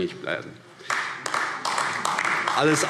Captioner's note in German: Beifall AfD